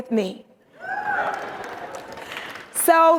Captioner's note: audience cheering